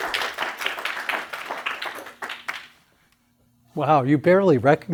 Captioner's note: applause